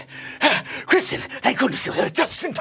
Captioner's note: gasps